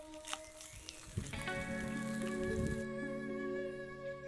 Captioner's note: birds chirping